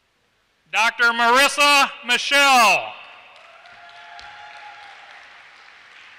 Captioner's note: applause